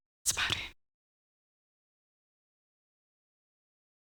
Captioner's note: audio out